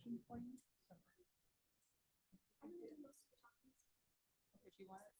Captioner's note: faintly speaking